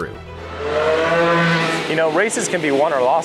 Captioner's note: engine revving